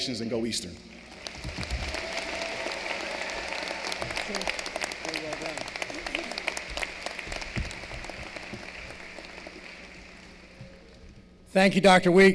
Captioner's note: applause